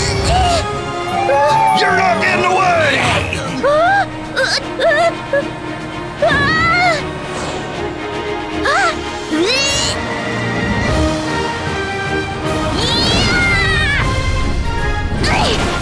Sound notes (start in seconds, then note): 6.4 Tayo shrieks